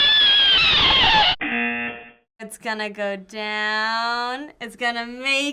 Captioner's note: buzzer